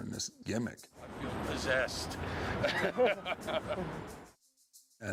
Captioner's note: chuckles